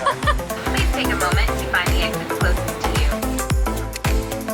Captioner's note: speaking over the intercom